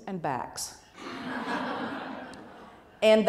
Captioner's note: laughter